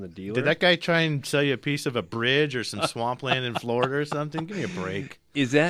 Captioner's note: laughs